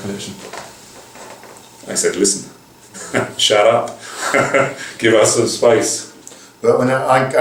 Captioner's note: laugher; laughter